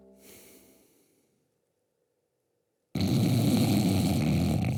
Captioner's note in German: schnarch